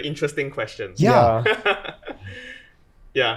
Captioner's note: laughs